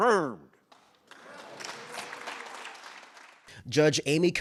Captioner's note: senators applauding